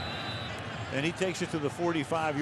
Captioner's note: whistle